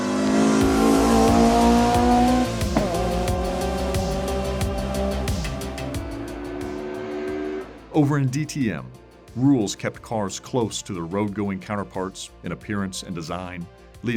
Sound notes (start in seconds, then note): 0.0 car roaring; 3.5 upbeat music; 7.2 car roaring